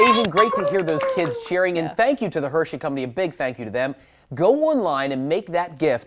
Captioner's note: applause